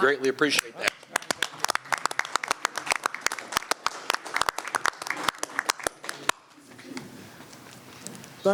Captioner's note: applause